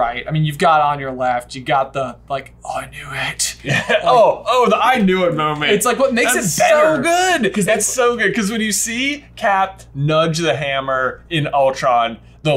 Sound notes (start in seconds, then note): 2.7 whispers